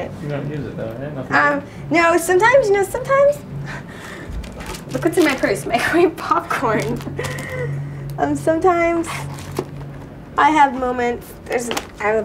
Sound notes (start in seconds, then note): 6.7 giggles